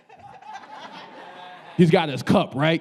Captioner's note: audience laughing